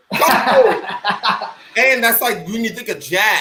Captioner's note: laughing